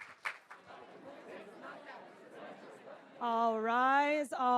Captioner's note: people chattering